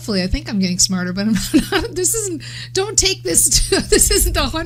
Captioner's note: laughs